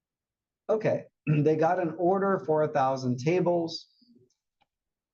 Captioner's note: cough